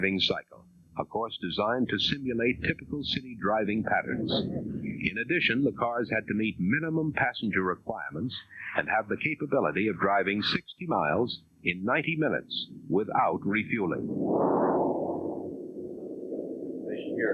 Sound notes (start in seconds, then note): none